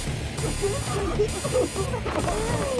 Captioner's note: coughing